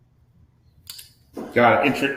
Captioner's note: accessory clicking